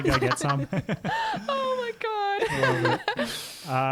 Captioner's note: laughing together